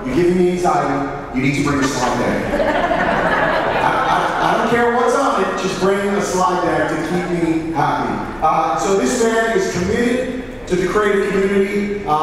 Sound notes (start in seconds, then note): 1.5 audience laughing